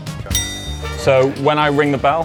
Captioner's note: bell rings